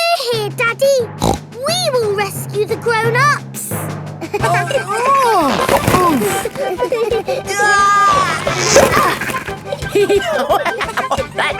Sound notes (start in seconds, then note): 1.2 snorts; 4.3 giggling; 5.4 grunting; 7.4 giggling; 10.2 laughing